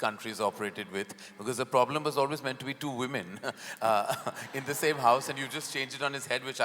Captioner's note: laughs